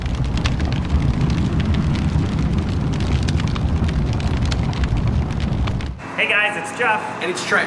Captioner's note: fire crackling